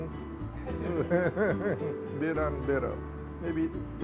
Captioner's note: laughing